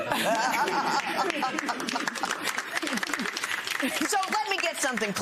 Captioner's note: laughter